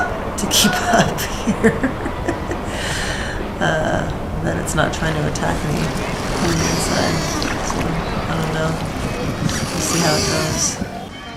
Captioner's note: laughs